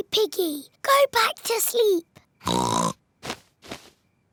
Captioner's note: oinks